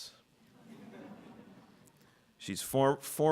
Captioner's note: audience laughing